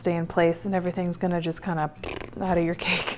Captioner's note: blows raspberry